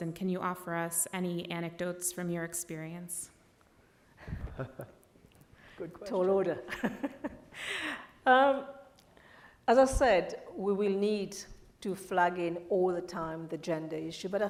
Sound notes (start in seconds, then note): 4.4 laughs; 8.8 laughs